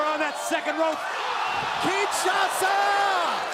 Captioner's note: crowd cheering